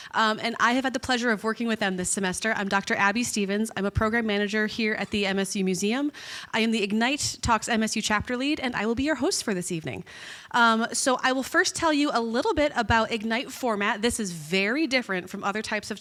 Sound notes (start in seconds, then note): none